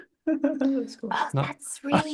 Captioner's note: laughs